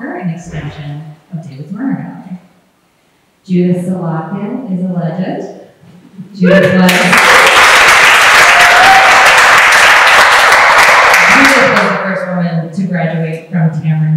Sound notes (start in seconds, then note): 6.7 applause